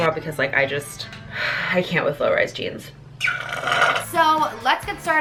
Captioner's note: slurps